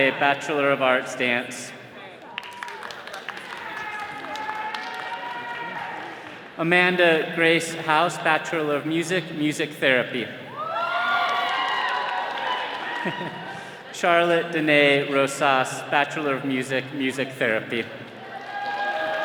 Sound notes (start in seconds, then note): 2.0 attendees clapping; 10.5 all cheering